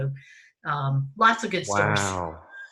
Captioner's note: laughs